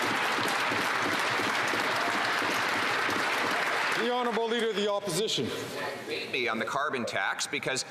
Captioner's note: some Applause